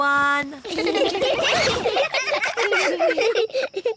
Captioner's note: all giggling